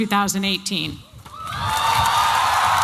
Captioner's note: applause and cheering